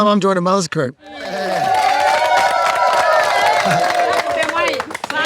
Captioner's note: people cheering; people speaking in foreign language